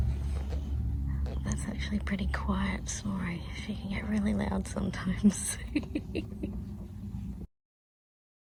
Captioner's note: tries to stifle laugh